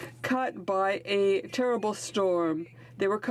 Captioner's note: speaking French